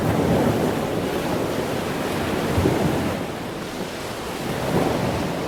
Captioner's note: waves rumbling and splashing